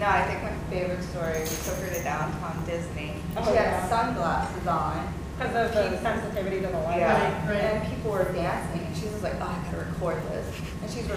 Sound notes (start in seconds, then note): none